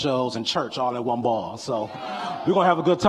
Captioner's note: audience cheering